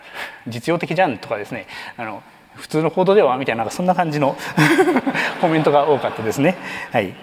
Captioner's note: chuckles